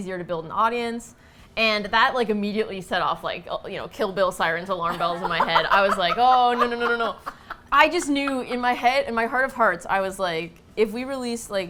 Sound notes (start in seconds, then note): 4.9 laughs hysterically